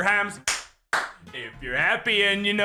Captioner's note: clap Clap